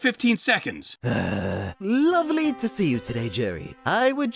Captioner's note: groans